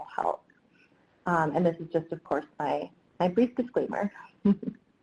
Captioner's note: laughs